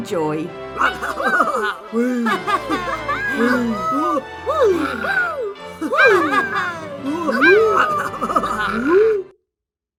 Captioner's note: cheering!